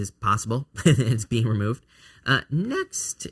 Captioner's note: chuckling